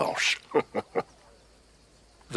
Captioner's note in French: rires